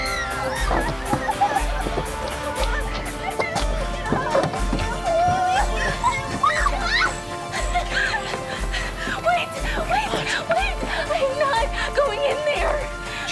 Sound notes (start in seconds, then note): 0.0 screams; 0.3 crying; 4.3 screams